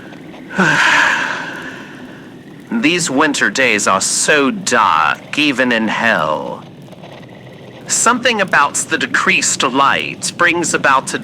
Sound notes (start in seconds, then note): 0.4 sighs